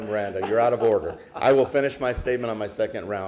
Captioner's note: laughter